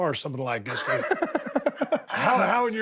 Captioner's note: Sami laughs